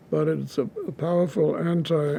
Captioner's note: none